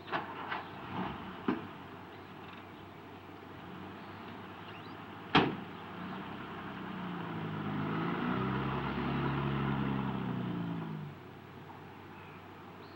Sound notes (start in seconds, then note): 1.0 car engine roaring; 5.4 door latching